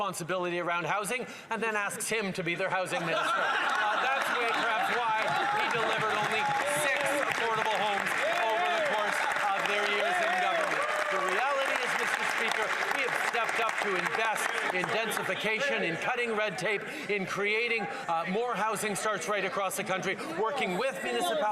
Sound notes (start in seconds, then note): 6.3 some Laughter; 13.2 some Applause